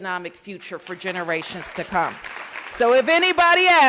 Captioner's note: applause